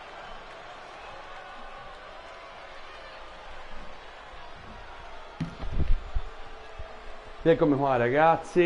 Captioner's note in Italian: Applauso